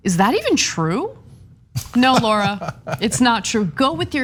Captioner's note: laugh